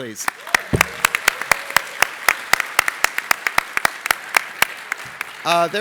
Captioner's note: applause